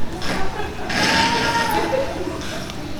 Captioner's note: loud snoring